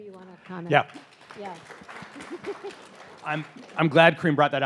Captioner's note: audience applauding